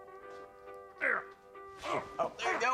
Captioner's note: groaning